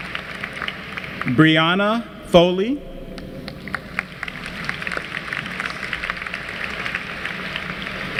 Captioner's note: applause; applause